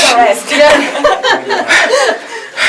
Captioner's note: everyone laughs